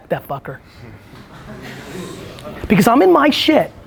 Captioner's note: group laughs